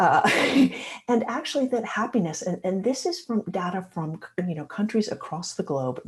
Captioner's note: laughter